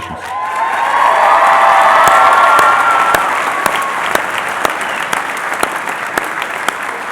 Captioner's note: applause